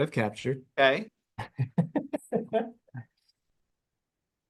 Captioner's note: laughing